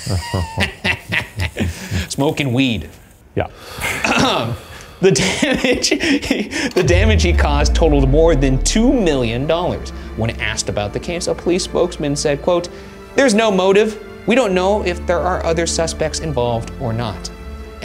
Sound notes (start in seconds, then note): 0.0 laughing; 4.3 clears throat; 4.3 person exhales; 5.1 laughs